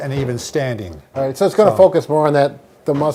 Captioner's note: none